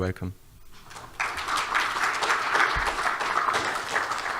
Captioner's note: clapping